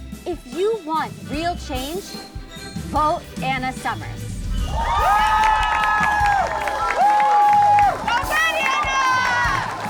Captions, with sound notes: If you want real change, vote Anna Summers. [cheers] Goin great, Anna!